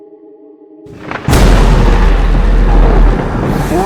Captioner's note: thunder crashing